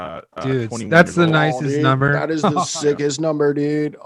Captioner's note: laughs